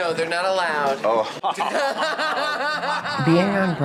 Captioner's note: both laugh maniacally